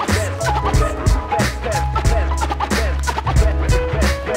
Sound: record scratching

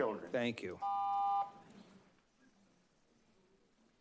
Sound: beeping

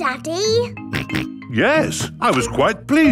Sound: snorts

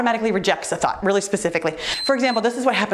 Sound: timer beeps

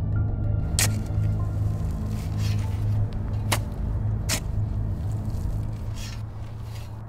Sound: digging sounds

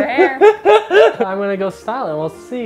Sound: laughing

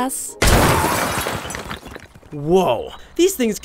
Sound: car crashing

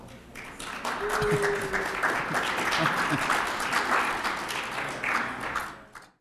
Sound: applause

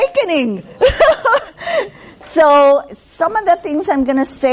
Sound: laughing

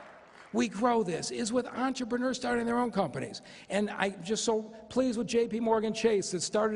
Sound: cheers and applause

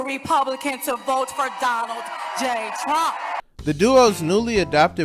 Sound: crowd cheering

